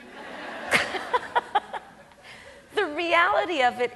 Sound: audience laughs; Kamala laughs

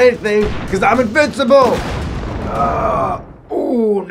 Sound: motorcycle exploding

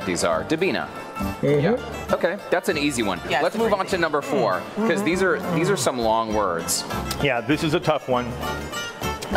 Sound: speaking non-english language

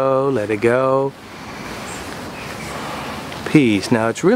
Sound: deep breath

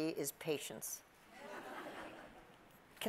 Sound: audience laughs

